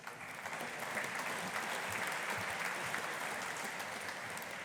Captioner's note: audience applauding